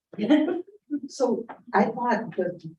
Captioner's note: chuckling